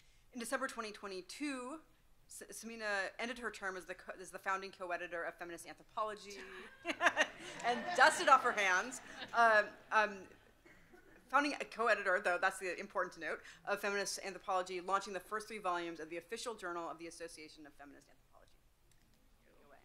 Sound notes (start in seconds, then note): 6.4 laughs; 7.7 audience cheering